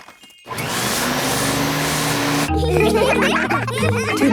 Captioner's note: whirring; all laughing